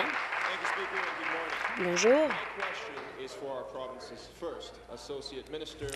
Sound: applause

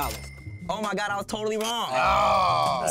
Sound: both groan

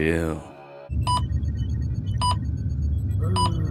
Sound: beeping

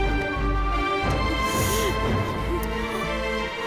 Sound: kisses

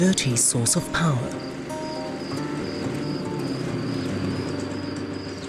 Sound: running generator noise; sound of the generator switching off

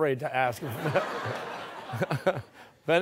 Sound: laughter

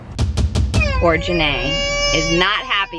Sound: baby crying

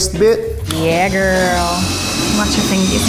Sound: drill whirring

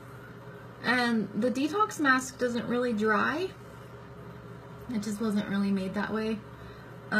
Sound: none

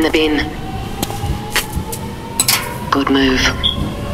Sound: metal clinks

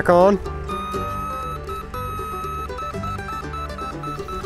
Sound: machine beeps

